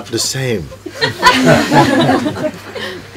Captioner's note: laughter